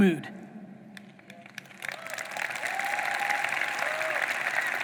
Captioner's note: audience applauding